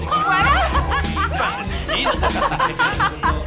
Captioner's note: laughing